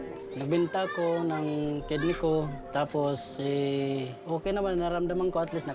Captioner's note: speaks in foreign language